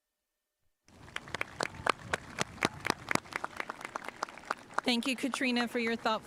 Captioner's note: spectators applauding